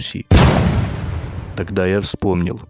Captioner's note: sound of gunfire